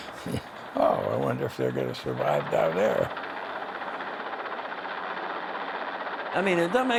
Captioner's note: chuckling